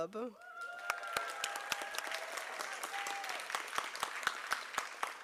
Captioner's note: applause